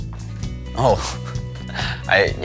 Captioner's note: chuckles